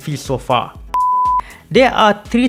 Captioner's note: beep